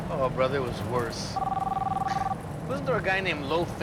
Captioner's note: phone ringing